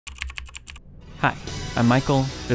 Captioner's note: typing